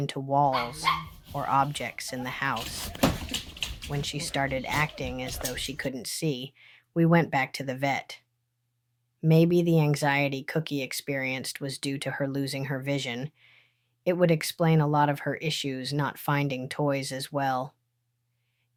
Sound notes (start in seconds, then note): 2.5 door slamming; 3.6 dog panting